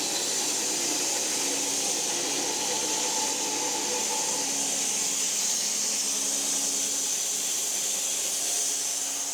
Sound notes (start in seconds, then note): 4.9 saw buzzing continues